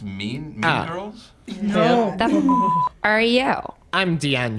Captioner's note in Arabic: الصافرة